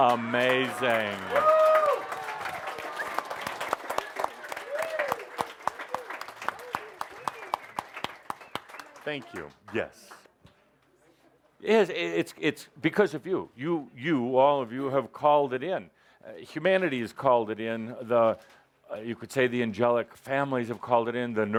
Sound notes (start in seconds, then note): 8.4 audience applause